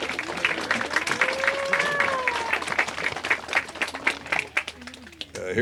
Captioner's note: applause